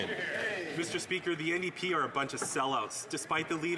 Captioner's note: some Applause